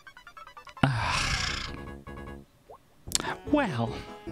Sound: big sigh

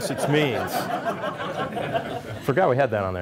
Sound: laughter

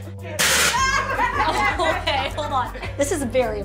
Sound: surprised yelling

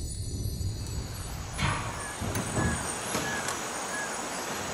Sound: ambient forest sounds

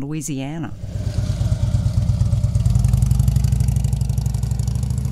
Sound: engine roaring

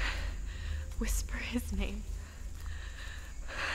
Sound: fighting tears

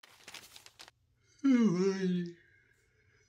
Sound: yawning

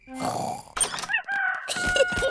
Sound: both snoring; rooster crowing

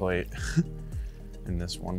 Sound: laughs

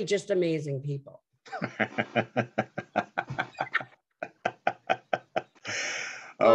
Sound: laugh

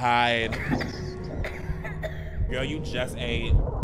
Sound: character coughing

